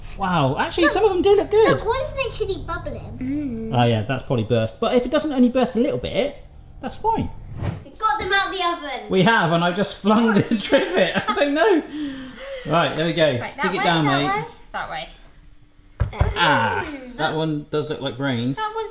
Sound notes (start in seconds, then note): 7.4 air whooshing; 12.0 laughs; 15.7 thump